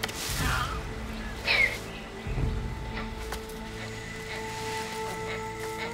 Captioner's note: dramatic music; monkeys chittering